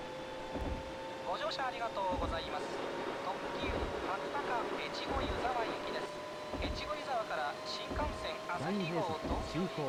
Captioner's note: japanese train announcement